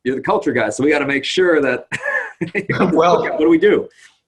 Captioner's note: laughs